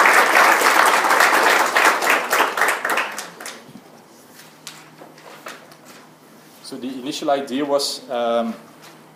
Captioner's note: applause